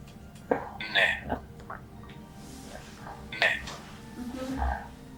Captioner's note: achmet – artificial male voice